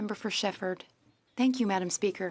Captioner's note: speaking French